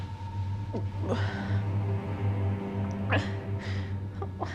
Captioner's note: dramatic music; Maggie moaning